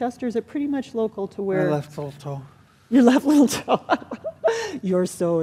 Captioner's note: laughing